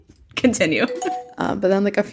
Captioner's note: bingbong